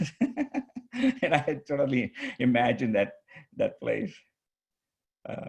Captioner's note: laughs